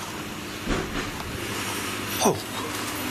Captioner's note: banging